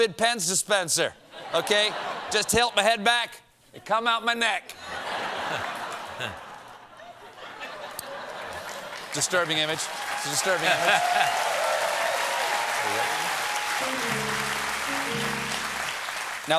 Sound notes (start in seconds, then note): 4.7 laughter; 11.6 applause